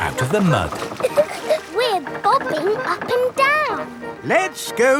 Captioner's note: chuckles